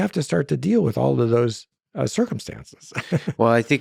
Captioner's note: laughs